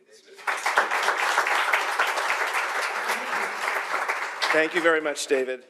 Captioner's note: audience applauding